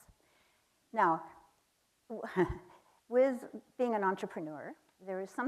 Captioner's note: chuckles